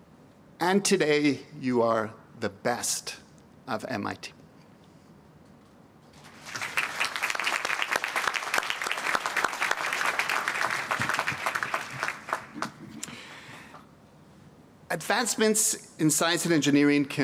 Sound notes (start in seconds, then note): 6.2 applause